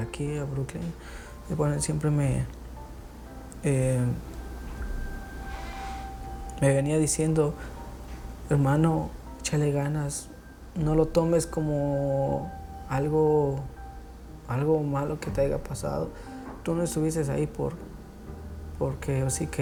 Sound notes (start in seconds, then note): none